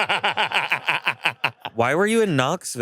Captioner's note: laughs